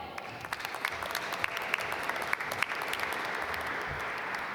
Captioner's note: applause